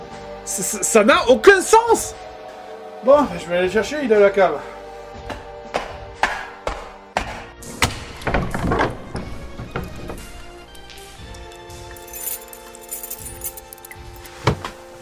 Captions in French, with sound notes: Ça n'a aucun sens ! Bon, je vais le chercher, il est à la cave. (Bruits de pas) (Ouverture de porte) (Bruit de clé)